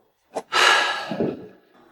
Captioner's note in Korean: 한숨